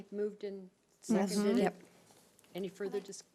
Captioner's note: overlapping chattering